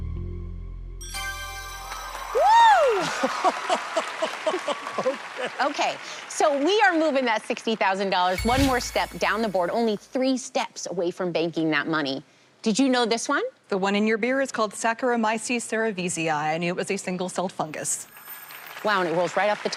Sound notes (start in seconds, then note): 1.0 ding; 3.0 laughs